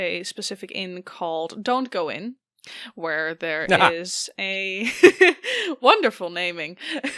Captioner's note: laugh